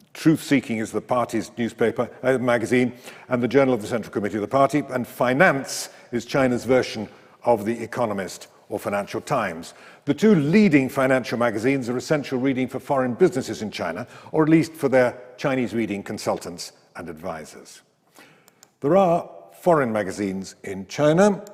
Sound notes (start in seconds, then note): 18.4 mouse clicks; 21.3 mouse clicks